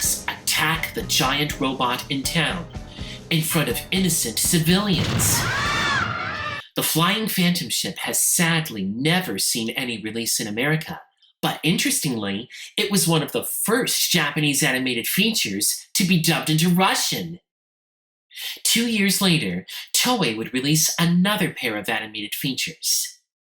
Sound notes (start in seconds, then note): 5.0 all screaming